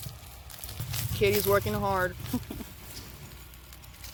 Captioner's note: chuckles